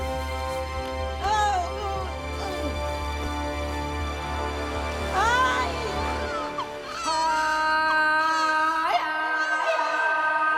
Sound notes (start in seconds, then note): 2.3 groaning; 5.2 baby cries